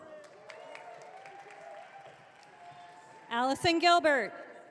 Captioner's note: audience cheering